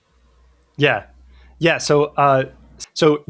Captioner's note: uh